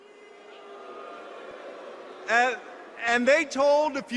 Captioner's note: laughter